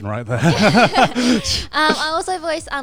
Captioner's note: laughs